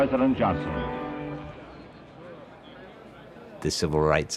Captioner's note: indistinct conversation